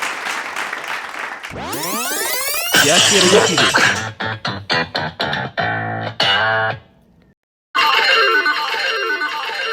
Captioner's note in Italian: Applauso